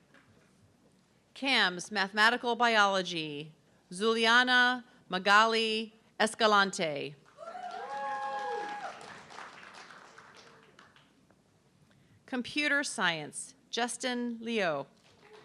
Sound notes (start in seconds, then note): 7.3 audience clapping and cheering; 15.0 audience clapping